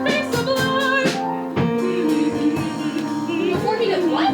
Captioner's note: humming